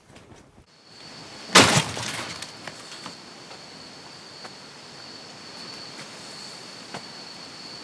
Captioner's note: crickets chirping; door slams